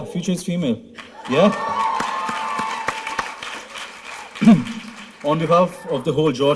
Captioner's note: applause